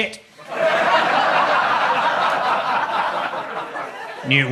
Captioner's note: audience laughs